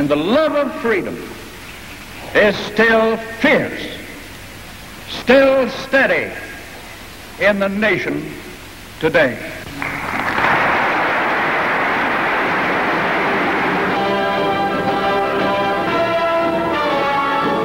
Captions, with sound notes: And the love freedom is still fierce, still steady in the nation today. (audience clapping) (bright lively music)